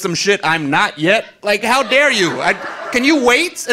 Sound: audience laughing

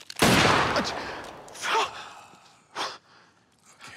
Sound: gunshot

